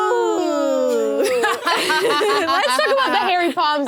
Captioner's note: laughs